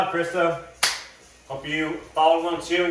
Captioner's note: hand smacks